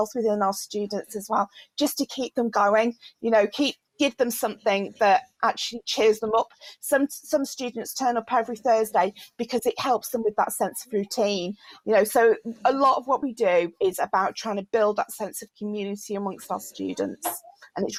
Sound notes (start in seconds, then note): none